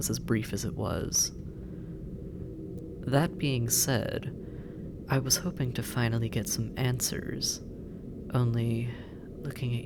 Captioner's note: hesitant